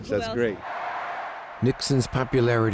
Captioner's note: cheering